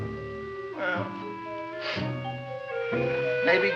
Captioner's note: sniffles